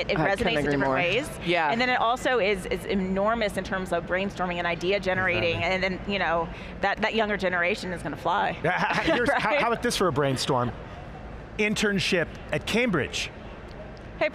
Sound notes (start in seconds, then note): 8.6 laughing gently